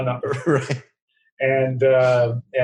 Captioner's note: laughing